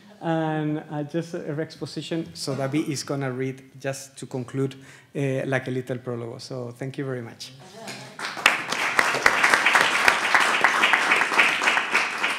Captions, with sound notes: And just a re-exposition, so David is gonna read just to conclude, like a little (speaking Spanish) So thank you very much (audience applauds)